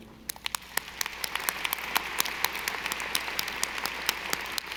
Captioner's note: audience applauding